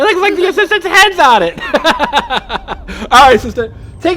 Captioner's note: laughing